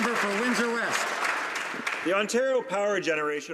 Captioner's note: some Applause